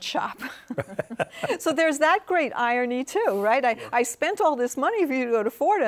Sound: laughs

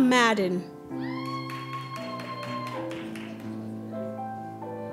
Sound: applause

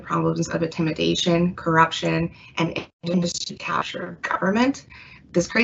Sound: mic cutting out

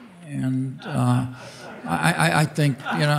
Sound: audience laughing

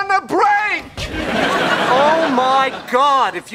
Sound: audience laughing

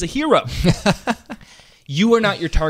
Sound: laughing

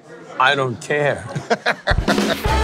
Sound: laughing

